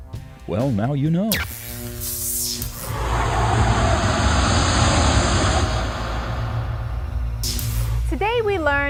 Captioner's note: sound Effects